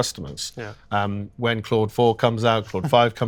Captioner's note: chuckling